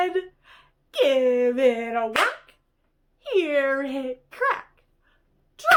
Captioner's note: clap